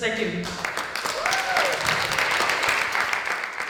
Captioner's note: applause